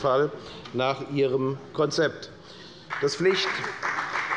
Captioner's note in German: Beifall bei der FDP